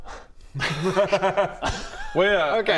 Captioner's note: no-pressure giggles